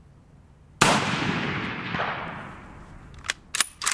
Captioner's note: gun fires; gun cocks